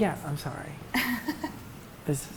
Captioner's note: laughs